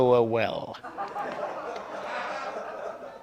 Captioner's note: laughter